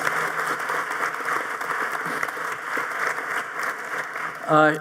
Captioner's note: audience applauding